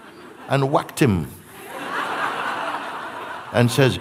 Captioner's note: laughter